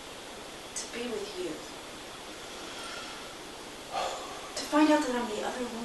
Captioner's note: sigh